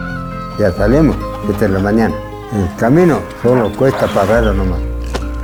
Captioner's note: speaks Spanish